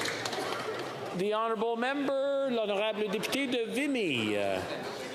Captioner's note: applause